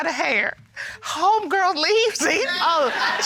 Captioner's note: laughs